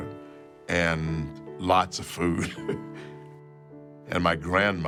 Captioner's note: chuckles